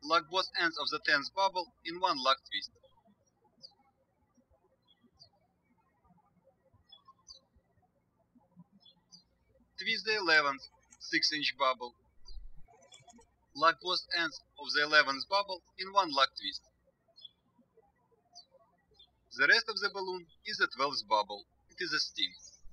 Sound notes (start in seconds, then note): 3.4 birds chirping; 17.2 birds chirping